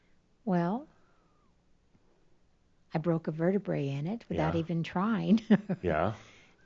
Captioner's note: she chuckles